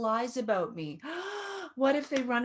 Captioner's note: gasping